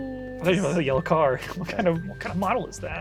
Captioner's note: laughs